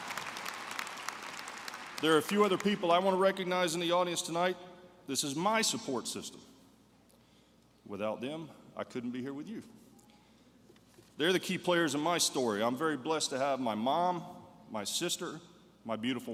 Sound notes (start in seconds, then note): 1.6 applause